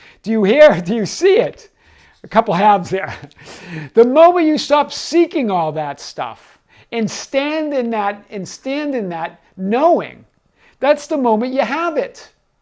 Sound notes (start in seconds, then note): 3.0 chuckles